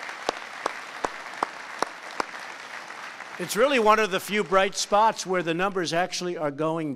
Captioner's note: applause